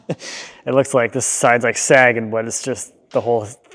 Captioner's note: laughs